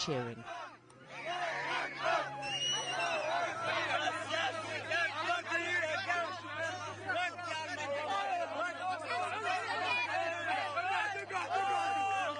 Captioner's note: refugees cheer and clap